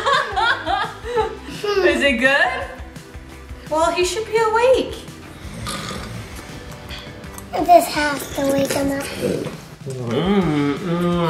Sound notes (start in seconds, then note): 0.3 laughing; 5.3 snoring